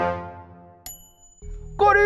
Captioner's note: ding